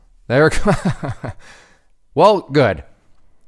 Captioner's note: laughing